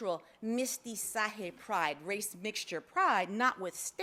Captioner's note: speaks foreign language